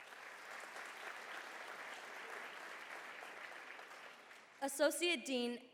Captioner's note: applause